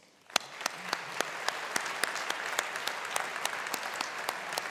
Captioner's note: audience applauding